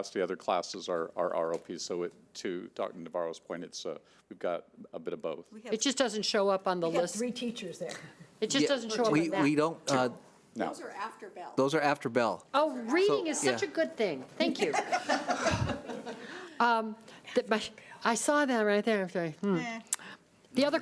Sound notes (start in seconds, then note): 14.6 group laughs